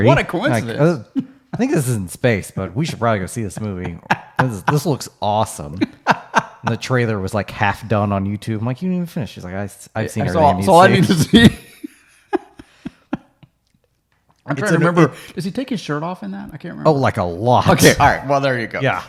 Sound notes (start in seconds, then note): 10.7 laughing